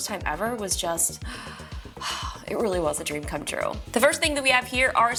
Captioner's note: exhales